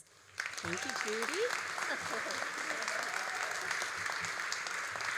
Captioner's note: all applauding